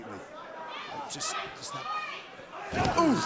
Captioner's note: crowd chatter